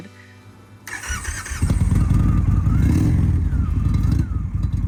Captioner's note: motorbike revving